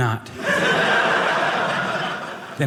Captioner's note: audience laughing